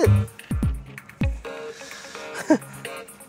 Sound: chuckles

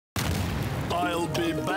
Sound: explode

